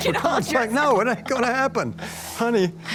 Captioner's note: laughs